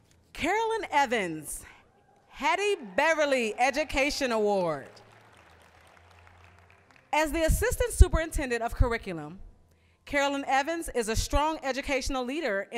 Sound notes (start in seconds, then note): 5.3 applause